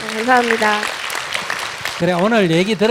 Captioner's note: audience applause